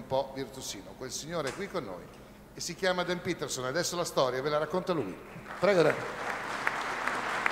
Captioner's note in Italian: Applauso